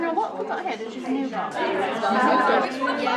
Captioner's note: background chatter